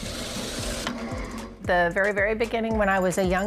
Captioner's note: machine whirring